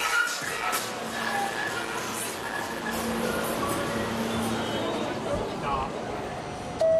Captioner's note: subway noises fade in; train chime sounds